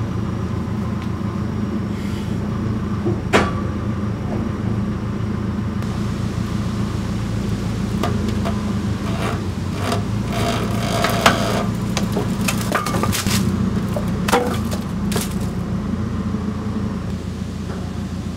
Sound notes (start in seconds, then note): 3.2 track frame clangs; 7.4 log creaks